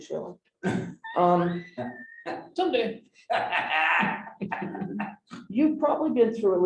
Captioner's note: laughter